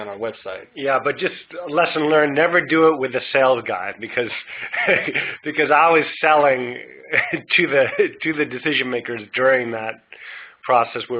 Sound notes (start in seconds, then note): 4.2 laughs